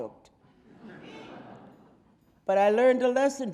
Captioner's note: audience laughing